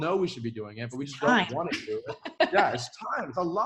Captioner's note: laughs